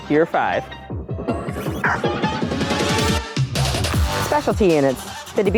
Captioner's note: upbeat music; K9 barks